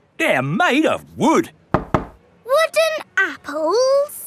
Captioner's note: knocks